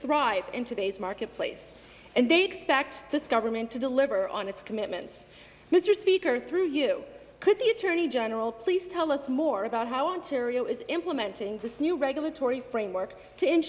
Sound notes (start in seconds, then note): none